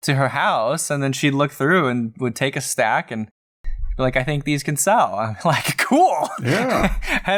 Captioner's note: laughter